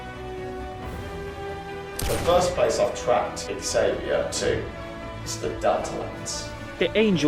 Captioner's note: gunshot